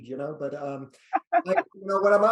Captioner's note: laughs